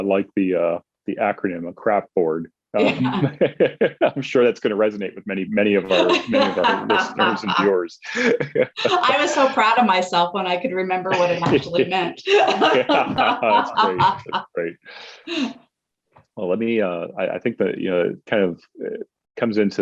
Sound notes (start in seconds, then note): 3.0 chuckles; 6.7 laughs; 11.0 both laughs